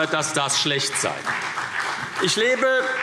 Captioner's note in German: Beifall CDU und BÜNDNIS 90/DIE GRÜNEN